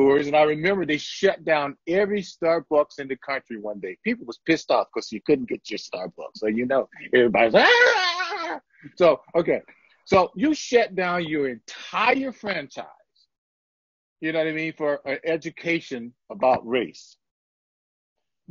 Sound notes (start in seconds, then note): 7.4 whining sounds